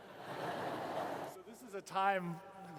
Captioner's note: laughter